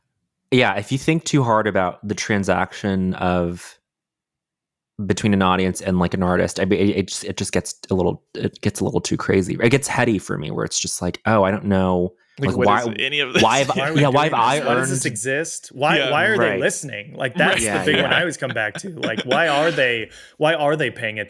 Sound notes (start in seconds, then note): 13.2 chuckles